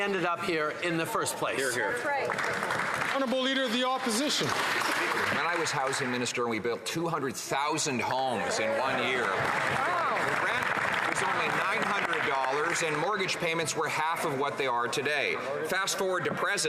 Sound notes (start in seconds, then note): 8.5 some Applause